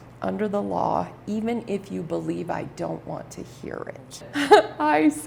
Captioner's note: laughs